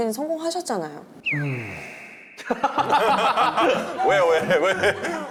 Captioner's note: sighs